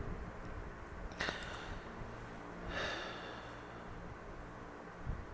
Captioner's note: painful sigh